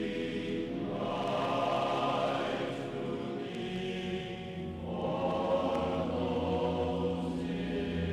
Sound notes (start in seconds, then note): 3.4 chanting continues